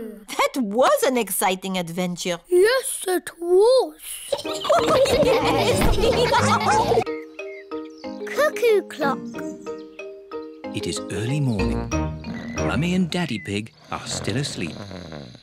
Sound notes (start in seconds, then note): 4.3 all giggle